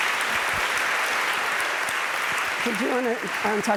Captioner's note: audience applauding